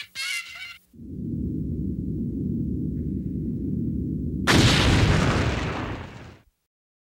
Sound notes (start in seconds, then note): 1.0 wind whooshes; 4.6 logo crashing